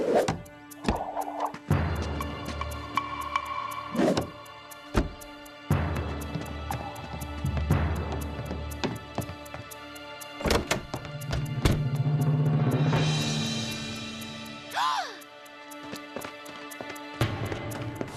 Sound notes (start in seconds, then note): 14.7 gasps